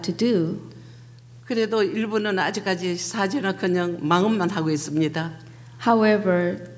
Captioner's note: speaking foreign language